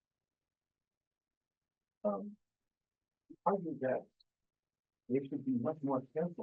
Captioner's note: presenter speaking faintly off mic